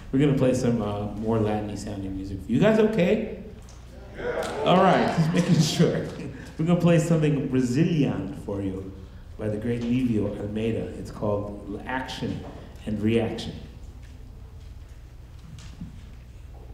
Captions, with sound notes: We're gonna playsome more Latin-y sounding music for you. You guys okay? - Yeah. (audience chatters) - All right, just making sure. We're gonna play something Brazilian for you, by the great Livio Almeida, it's called Action And Reaction.